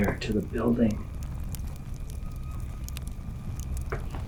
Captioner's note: flames crackling